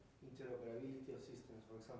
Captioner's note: male speaking off microphone